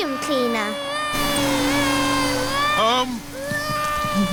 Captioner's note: crying